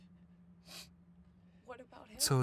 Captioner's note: Tyler sniffs